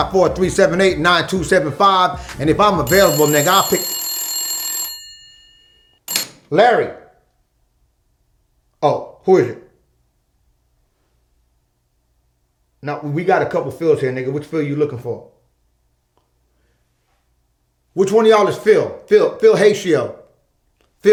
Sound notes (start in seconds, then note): 5.1 phone rings